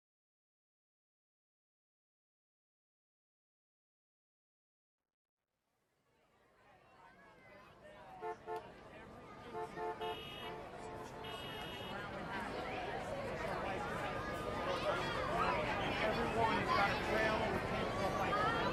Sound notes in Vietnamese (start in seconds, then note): 7.2 tiếng xe cộ; 7.2 tiếng xì xầm; 12.7 tiếng còi báo động